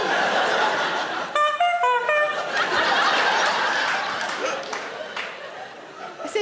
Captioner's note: audience laughing; Sarah honking